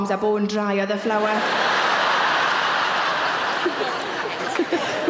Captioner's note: audience laughing